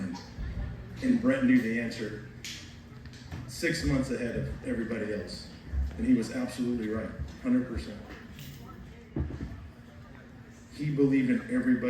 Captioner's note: snaps fingers